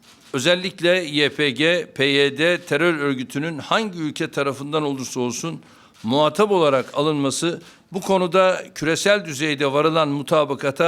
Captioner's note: speaking Turkish